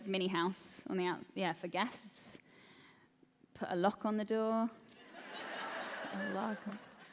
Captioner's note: laughter